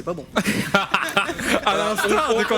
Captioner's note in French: rires